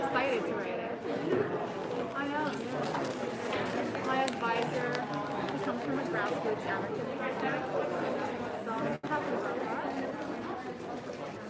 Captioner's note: background chatter